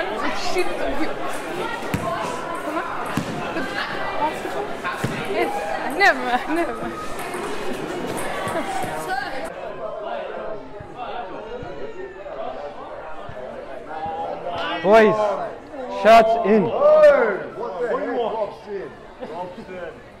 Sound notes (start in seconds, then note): 18.0 complaining